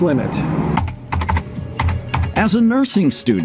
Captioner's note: keyboard typing